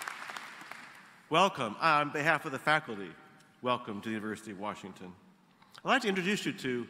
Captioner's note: applause